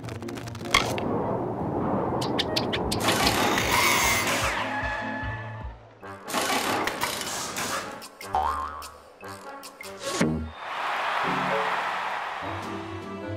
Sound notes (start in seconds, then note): 2.8 mechanical whirring; 10.3 crowd cheers